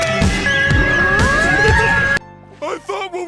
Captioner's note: laughing